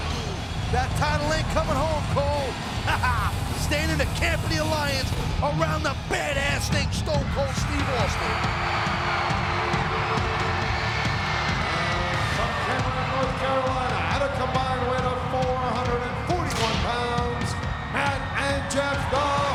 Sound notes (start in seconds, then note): 9.7 audience cheering; 9.7 upbeat music